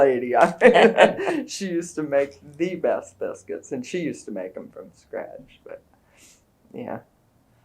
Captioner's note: laughter